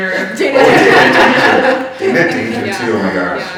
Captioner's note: laughing